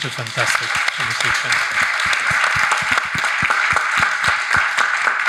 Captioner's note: audience applauding